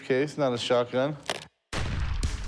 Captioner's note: gunshot